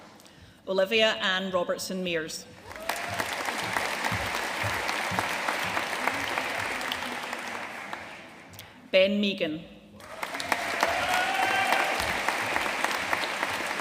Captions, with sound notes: Olivia Ann Robertson Mears. (AUDIENCE APPLAUDING) Ben Meighan. (AUDIENCE CHEERING AND APPLAUDING)